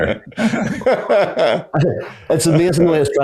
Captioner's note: everyone laughing